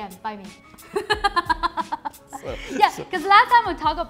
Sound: laughs

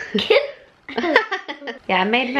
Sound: laughing

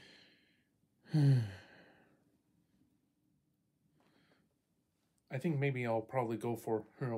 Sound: deep breaths in and out

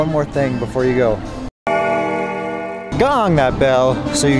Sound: bell dings

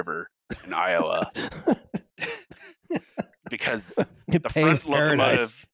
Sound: laughing

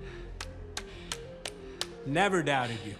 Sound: clapping hands

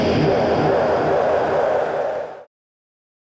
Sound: crowd cheering

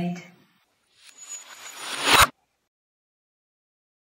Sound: disorted noise; total silence

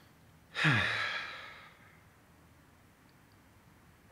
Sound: sighs

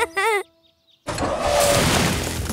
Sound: laughing

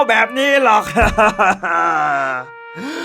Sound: crying

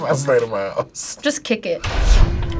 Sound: laughs

